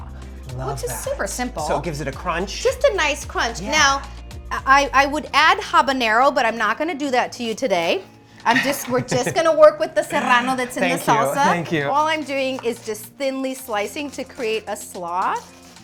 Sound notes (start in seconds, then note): 10.0 chuckles